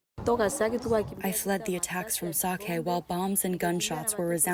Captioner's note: through translator